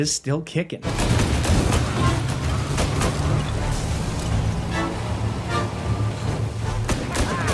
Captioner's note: gunshots boom; intense music